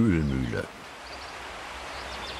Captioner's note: birdsong